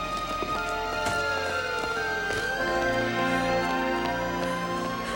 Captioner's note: siren blaring